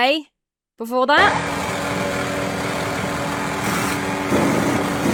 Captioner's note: engine rumbling; impact wrench rattling